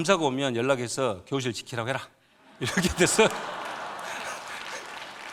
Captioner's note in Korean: 박수